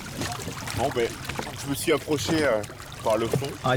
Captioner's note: speaking French